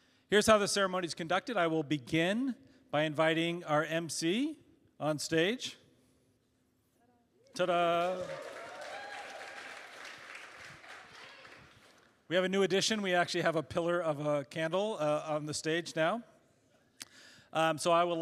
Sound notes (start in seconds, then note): 7.6 cheers; 10.4 applause